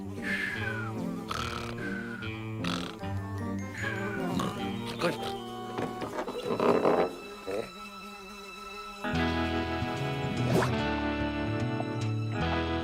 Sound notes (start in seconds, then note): 0.1 flies buzzing; 3.9 mutters; 5.6 doors creak; 9.0 guitar music